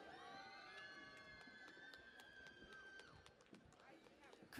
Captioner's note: cheering and Applause